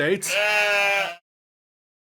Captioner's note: sheep baas